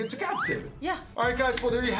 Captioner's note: slide whistle